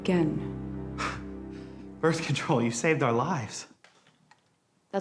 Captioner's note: sighs